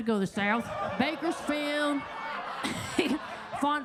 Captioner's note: everybody laughing